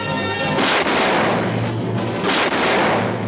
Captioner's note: suspenseful music; gunshots; suspenseful music